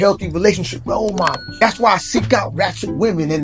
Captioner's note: bell dings